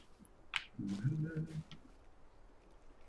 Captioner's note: hums